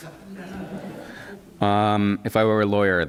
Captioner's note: laughter